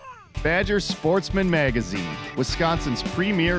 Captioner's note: voiceover